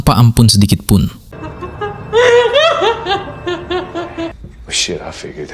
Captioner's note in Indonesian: tertawa